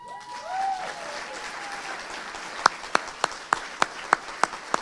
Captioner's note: audience applauding